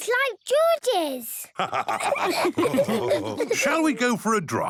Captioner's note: all laughing